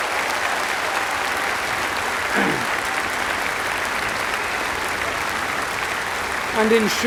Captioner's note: applause